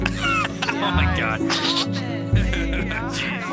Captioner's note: chuckling; laughing